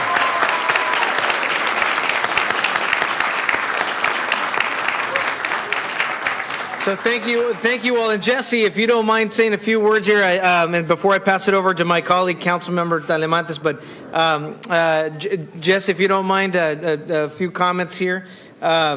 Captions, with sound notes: [APPLAUSE] >> THANK YOU ALL. >> THANK YOU ALL. JESSE IF YOU DON'T MIND SAYING A JESSE IF YOU DON'T MIND SAYING A FEW WORDS BEFORE I PASS IT TO MY